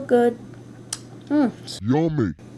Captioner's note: lip smack